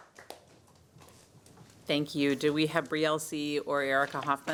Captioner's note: applause